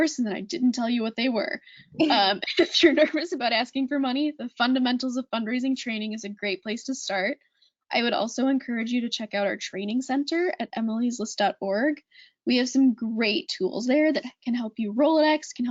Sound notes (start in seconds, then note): 2.4 laughing